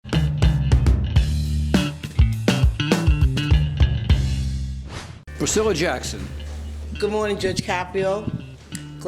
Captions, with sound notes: (upbeat rhythmic music) (swooshing) Priscilla Jackson. Good morning, Judge Caprio.